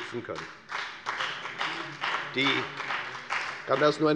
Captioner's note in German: Beifall bei der FDP